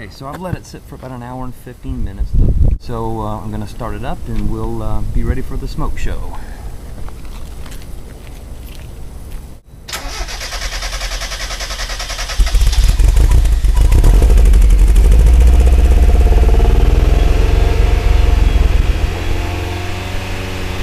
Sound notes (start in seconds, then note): 12.2 sound of car starting, running rough; 15.2 sound of revving the engine